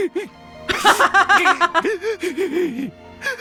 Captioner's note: laughs